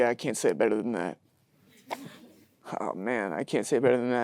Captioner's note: audience chuckling